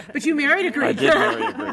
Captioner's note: laughs